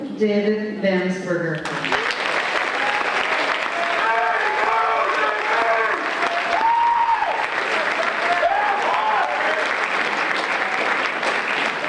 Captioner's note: applause